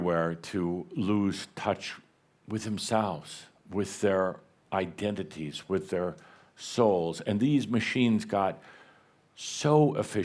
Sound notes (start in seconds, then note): none